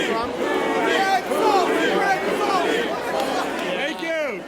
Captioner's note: crowd